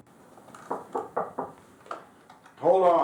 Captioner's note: knocking on door